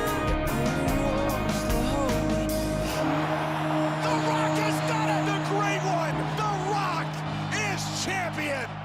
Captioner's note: crowd cheering